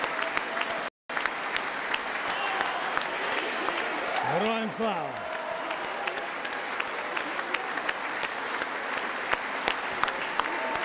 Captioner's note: applause